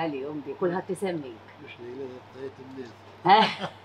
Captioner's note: laughs